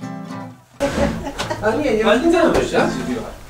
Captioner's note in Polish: rozmowy w tle